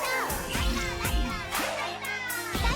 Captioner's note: heavy counter chants